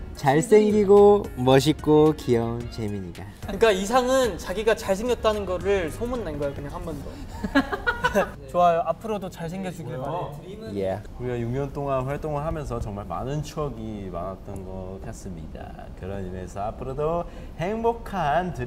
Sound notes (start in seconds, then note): 7.2 laughing